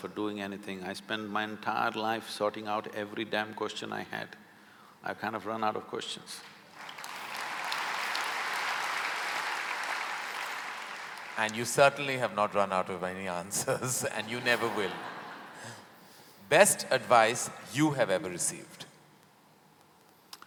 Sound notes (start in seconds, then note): 6.4 applause; 13.6 laughter